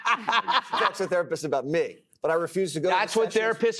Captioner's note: laughter